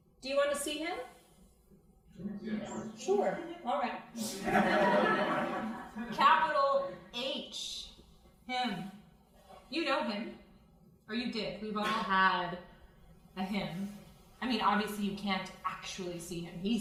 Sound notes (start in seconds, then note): 2.1 crowd; 4.2 crowd laughing